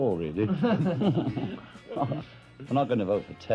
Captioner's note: laughing